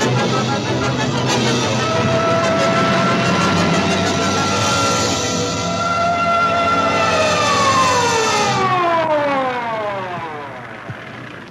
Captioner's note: suspenseful music; dramatic music; siren wails